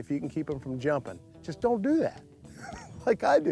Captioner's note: laughing